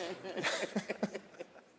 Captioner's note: laughter